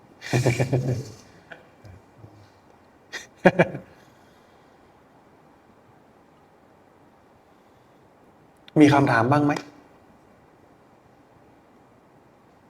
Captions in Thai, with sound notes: [เสียงหัวเราะ] มีคำถามบ้างมั้ย